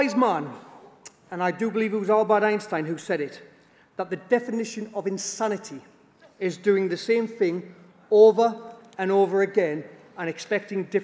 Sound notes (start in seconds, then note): none